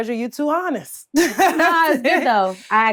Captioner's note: laughs